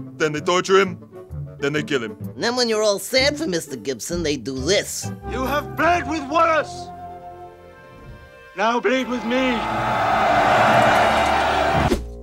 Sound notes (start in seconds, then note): 9.0 cheering